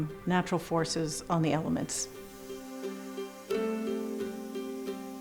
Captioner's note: air blowing through tube